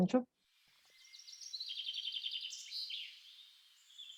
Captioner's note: sounds of birds chirping playing